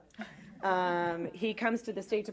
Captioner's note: laughter